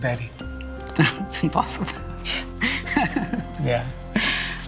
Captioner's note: laughing